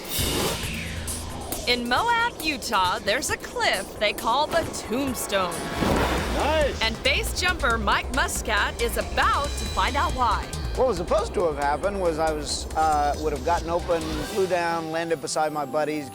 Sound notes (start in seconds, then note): 0.1 tense dramatic music; 5.4 parachute swooshing